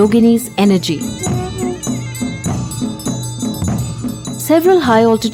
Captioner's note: bells jingling; soft drumming